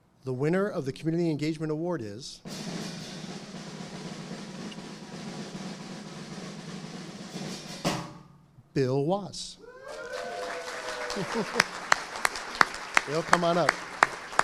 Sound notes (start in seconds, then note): 2.4 instrumental music; 9.6 audience applauding